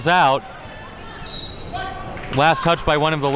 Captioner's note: whistle blows